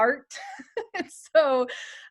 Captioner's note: laughter